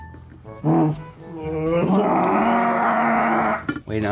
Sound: both groaning

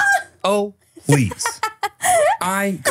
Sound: laughing

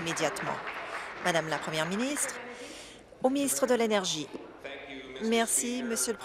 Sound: applause

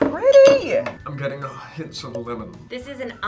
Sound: in deep voice

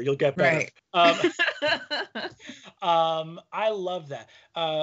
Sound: laughing

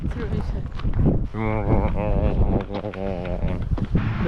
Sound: drone bump

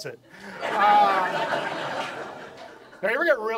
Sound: audience laughs

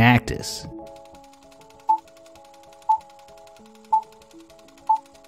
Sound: movie reel spinning and beeps

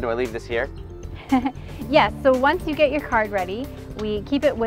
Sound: chuckling

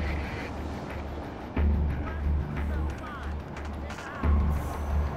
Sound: woman shouting indistinctly in distance

